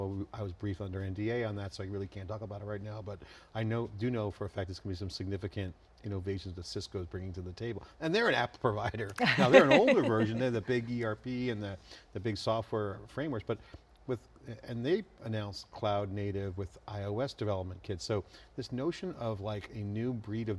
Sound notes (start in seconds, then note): 9.2 laughing